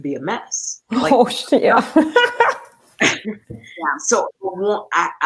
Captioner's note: laughter